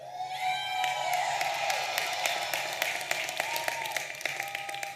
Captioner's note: audience applauding and cheering